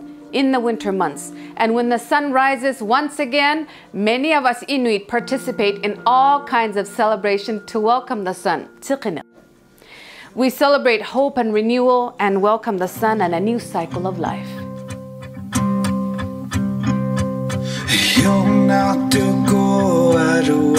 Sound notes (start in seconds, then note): 8.9 speaks in Inuktitut; 15.8 gentle tribal music